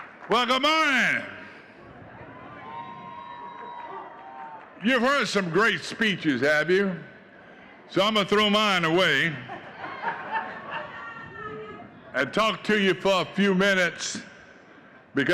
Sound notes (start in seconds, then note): 0.2 audience cheering and clapping; 4.8 audience cheering